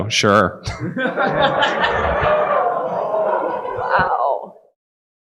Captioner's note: audience laughing